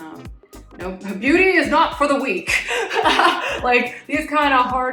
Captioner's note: laughs